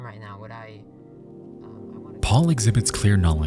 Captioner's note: voice fading out